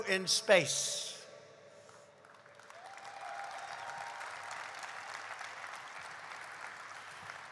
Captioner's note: applause